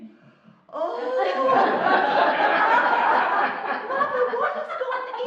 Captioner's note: laughing